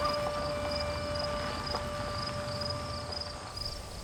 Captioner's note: bird and insect sounds